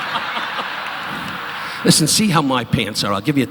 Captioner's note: audience laughing